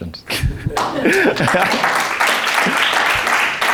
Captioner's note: crowd clapping